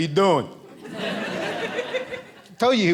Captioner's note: audience laughing